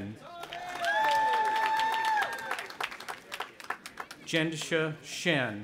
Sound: audience applauding and cheering

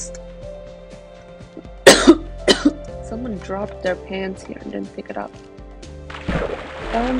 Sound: coughs

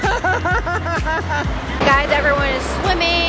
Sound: laughs

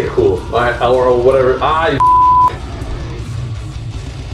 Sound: beep

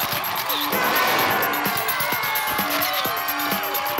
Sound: party chatter

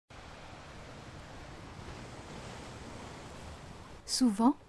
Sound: sound of seawaves

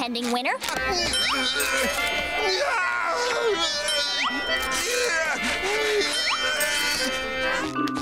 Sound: groaning

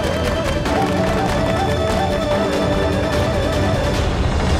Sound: clapping; devotional music

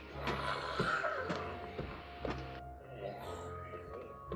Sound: snarling

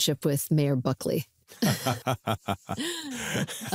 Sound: laughter

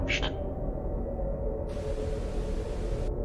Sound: static

